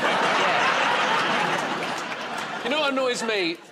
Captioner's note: laughter